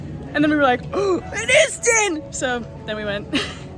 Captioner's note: gasp